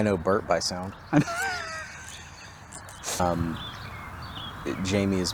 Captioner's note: laughing cheerfully